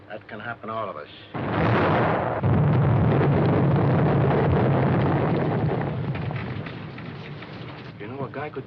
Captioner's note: explosions